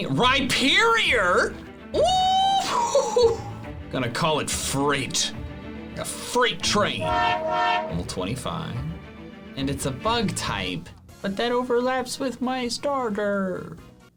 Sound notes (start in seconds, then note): 6.9 train horn blows